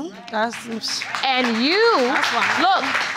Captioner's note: audience applauding